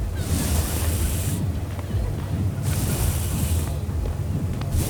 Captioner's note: water splashing